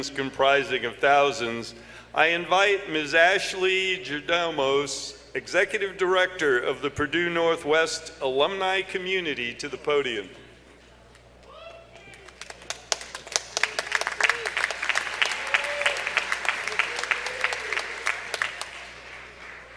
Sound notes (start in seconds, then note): 12.0 applause